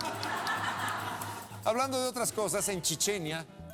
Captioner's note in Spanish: risas